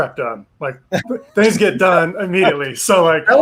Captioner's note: laughs